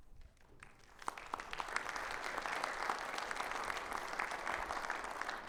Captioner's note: audience applauding